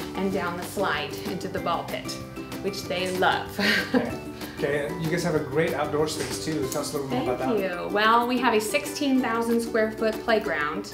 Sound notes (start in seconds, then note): 3.5 laughs